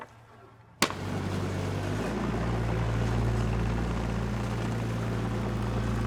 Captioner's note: mini loader engine buzzing